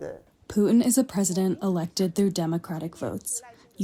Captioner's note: through translator